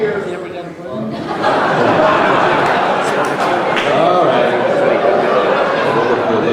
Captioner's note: crowd laughing